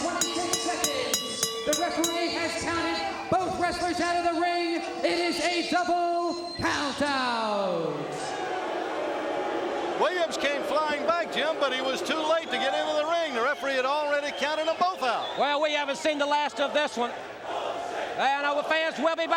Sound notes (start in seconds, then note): 0.0 crowd cheering; 4.5 bell ringing; 9.5 crowd chatter